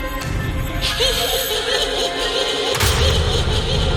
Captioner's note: girl laughing